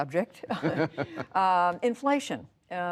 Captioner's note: laughter